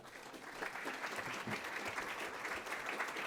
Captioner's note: applause